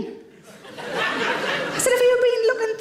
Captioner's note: audience chuckles